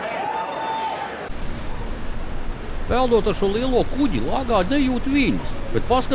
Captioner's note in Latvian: Aplausi